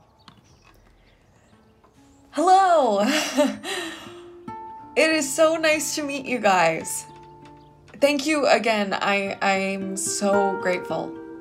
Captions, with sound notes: - Hello! (chuckles) It is so nice to meet you guys. Thank you again. I am so grateful.